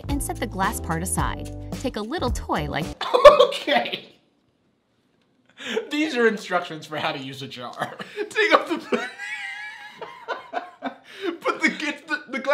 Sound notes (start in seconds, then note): 3.0 laughing; 9.5 laughing